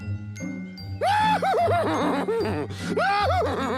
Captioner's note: neighing and laughing